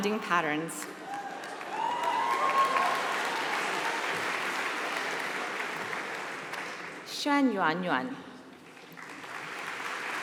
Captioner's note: applause